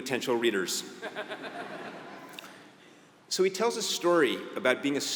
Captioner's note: laugh